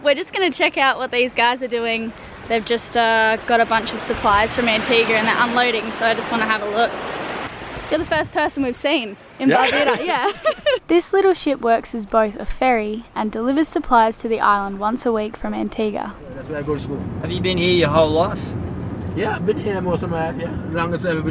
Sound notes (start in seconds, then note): 9.4 laughing